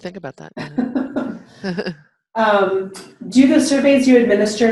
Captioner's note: chuckling